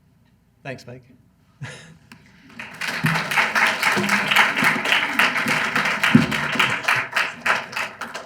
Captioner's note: applause